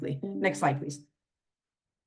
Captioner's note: notification dings